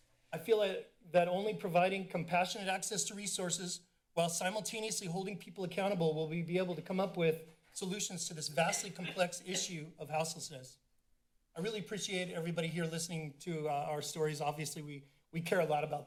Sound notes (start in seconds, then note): 8.5 coughs